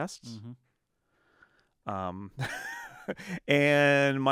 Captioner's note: laughing